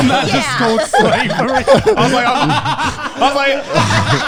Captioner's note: everyone laughing